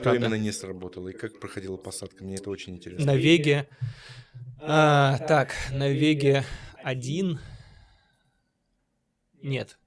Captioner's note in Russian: вздыхает